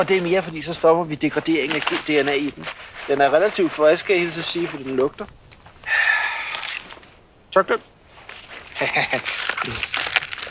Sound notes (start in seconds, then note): 8.7 laughs